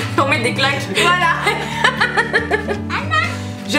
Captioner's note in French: rires